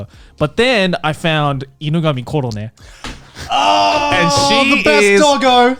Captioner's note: speaks in foreign language